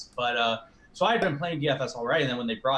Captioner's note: logo popping